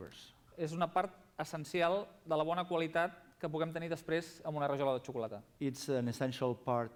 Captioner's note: non-english speech